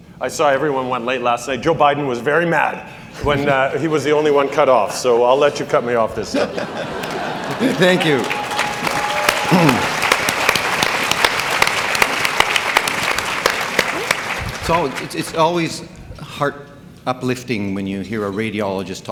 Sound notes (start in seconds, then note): 6.2 laughing; 9.0 audience applauding